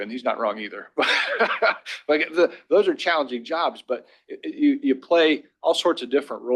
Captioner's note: laughter